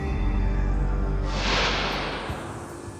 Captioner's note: wind whooshing